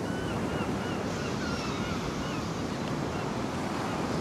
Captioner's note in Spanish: Gaviotas y oleaje